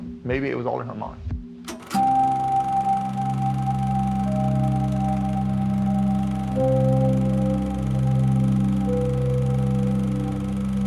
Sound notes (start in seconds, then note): 1.2 pensive music; 1.6 film reel clacking